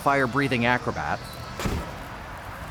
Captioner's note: woosh!